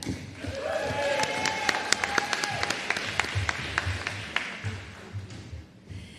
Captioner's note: applause